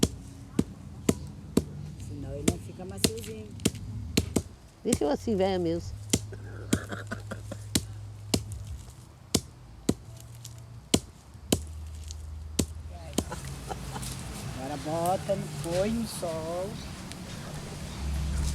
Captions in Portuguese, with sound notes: Se não, não fica maciozinho. Eu sou assim “véia” mesmo. [risadas ao fundo] [risadas ao fundo] Agora bota depois no Sol. [pássaros e veículos ao fundo] Pra secar.